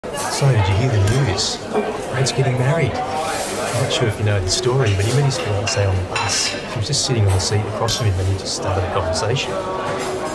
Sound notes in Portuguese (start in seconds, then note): 0.0 Ruídos do restaurante ao fundo